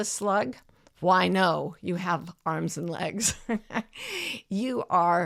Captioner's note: chuckles